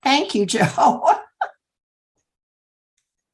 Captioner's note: laughter